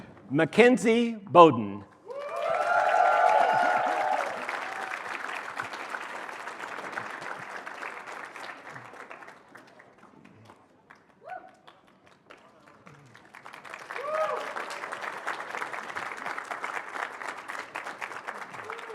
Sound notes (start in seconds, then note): 2.0 cheering, applause